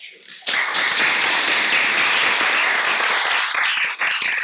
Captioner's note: audience applauding